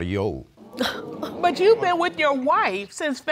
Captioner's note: audience gasping